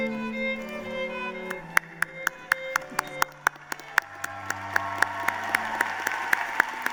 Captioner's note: applause